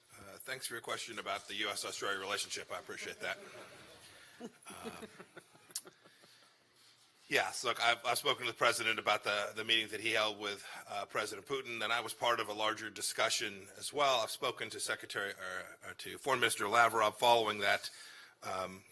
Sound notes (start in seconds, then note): 4.9 laughter